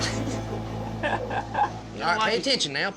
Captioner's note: chuckling